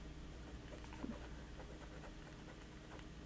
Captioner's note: pen writing